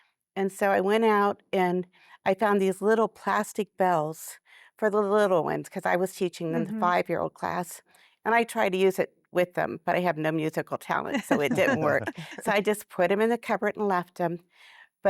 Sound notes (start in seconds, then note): 11.2 laughter